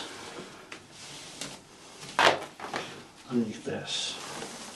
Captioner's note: rope rustling